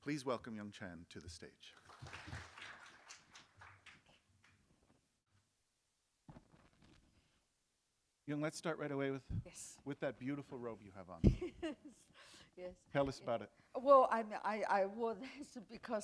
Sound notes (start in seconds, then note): 3.7 applause; 11.2 chuckle